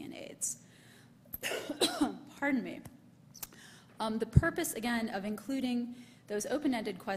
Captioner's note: coughs